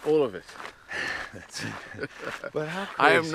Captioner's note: laughs